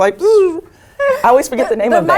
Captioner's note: laugh